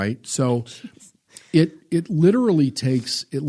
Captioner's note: laughs